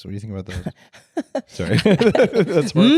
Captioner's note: laughs